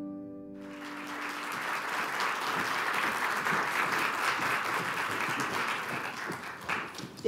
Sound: applause

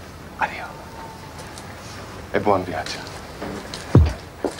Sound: speaks Italian

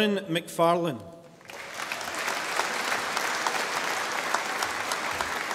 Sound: audience applauding

